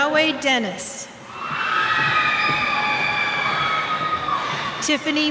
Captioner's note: cheers